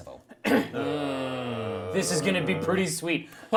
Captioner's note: groans